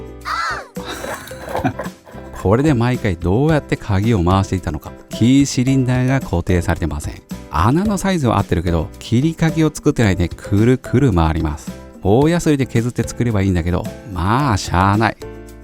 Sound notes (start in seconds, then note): 0.3 laughs